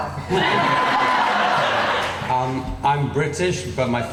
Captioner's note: laughing